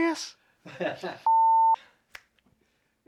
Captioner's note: laughs; beep